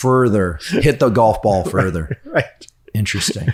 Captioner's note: chuckles